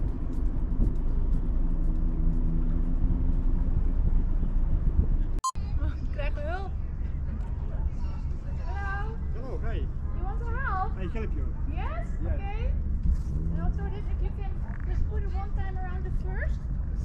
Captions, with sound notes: (speaks Dutch) - Hello! - Oh, hey. - Do you want to help? - I help you. - Yes, okay. - Yes. - And also if you can just put it one time around the first.